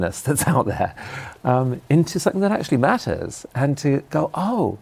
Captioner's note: laughs